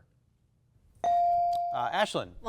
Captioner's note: buzzer dinging